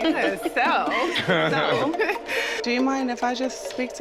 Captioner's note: laughing